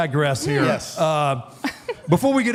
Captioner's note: Michelle laughs